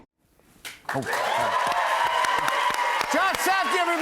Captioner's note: cheers and applause